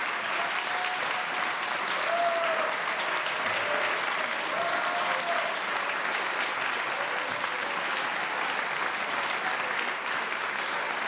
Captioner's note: applause